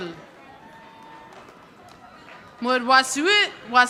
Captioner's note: audience applauding